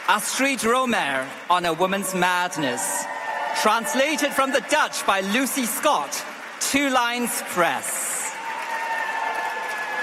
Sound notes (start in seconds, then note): 0.0 applause; 3.2 applause